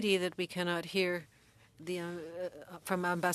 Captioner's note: speaking French